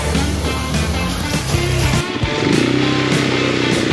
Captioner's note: motorcycles roaring